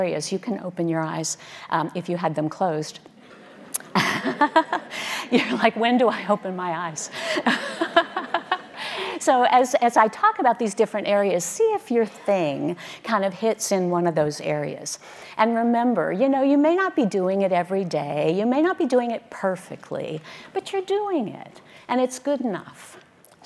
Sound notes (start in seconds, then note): 3.2 audience laughing; 3.6 laughing; 7.1 laughing